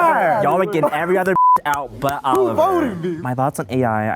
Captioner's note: beep